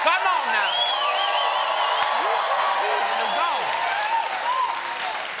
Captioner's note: cheers and applause